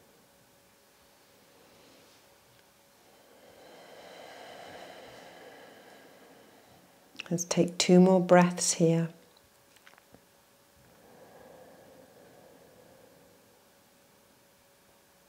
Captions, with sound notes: Let's take two more breaths here. (inhales and exhales)